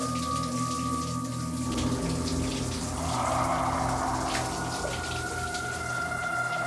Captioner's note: loud exhale